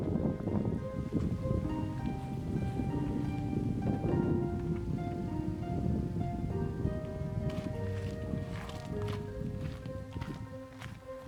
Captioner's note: wind